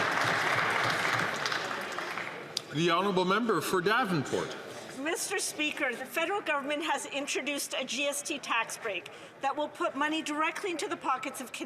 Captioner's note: some Applause